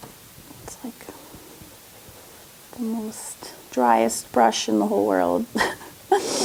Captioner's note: laughs